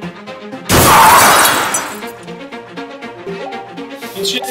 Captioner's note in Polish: zderzenie pieszego z autem